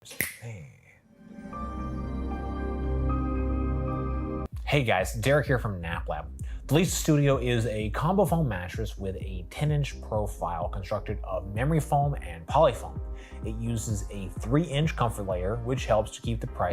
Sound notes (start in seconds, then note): 0.1 snaps fingers; 1.8 gentle music